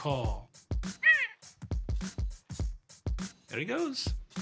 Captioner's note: mimics crowing